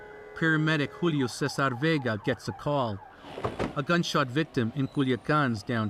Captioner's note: sirens